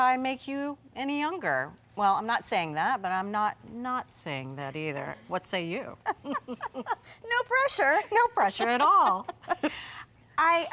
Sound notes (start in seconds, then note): 6.0 both laughing; 7.9 chuckles